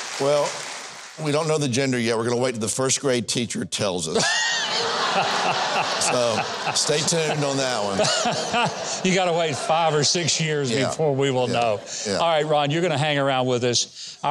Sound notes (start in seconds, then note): 4.2 host and audience laughs